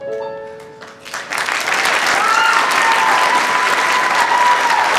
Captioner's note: audience applauds